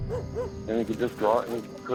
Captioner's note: dog barking